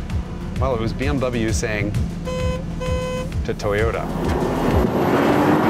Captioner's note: honk honk